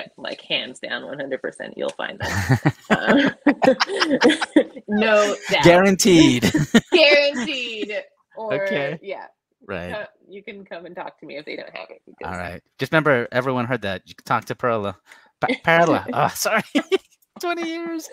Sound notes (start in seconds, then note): 2.2 both laughing